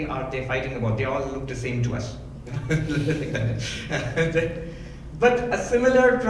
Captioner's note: laughs